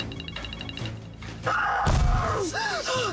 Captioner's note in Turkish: Bağırıyor